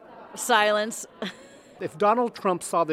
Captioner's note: chuckles